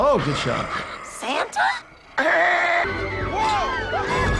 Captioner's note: laughs; gasping; people screaming